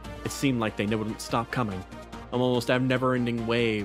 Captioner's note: none